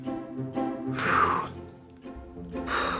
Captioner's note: big sigh; big sigh